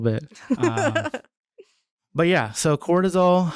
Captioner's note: laughing